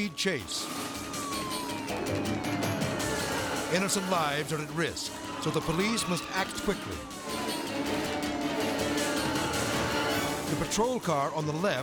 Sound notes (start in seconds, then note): 0.3 intense music; 0.3 siren blares; 6.9 intense music; 6.9 siren blares